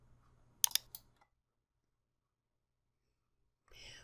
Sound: mouse clicks

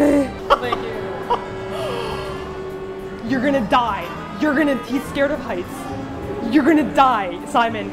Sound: laughs

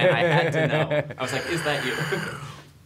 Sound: Oliver laughs

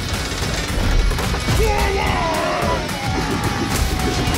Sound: army yelling

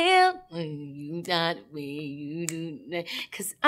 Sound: humming

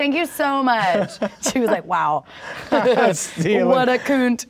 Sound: both laugh

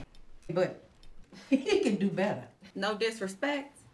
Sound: chuckles

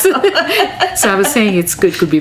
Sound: both laugh

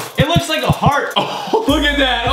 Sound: guffawing

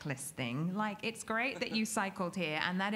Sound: laughs

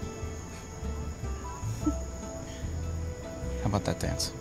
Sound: chuckles

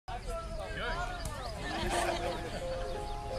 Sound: people talking in background; melancholy music

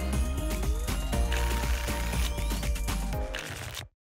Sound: tickets shuffling

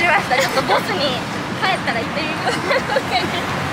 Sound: laughs; laughs

